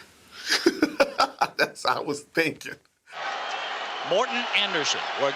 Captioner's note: laughs